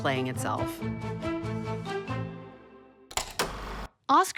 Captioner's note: film reel clicks